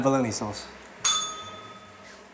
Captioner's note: bell rings